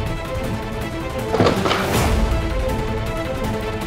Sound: wood crackling

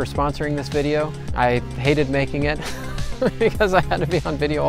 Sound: laughs

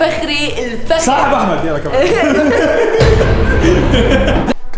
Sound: everyone laughs

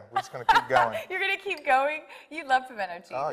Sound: laughs

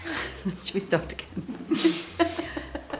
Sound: laughs

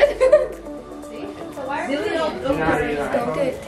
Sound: people chattering

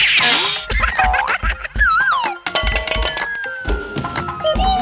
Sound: Gigglebot laughs

